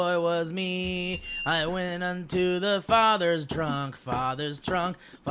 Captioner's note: ding ding